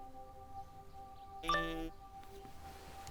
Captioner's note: phone chimes